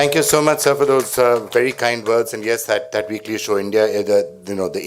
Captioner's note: applause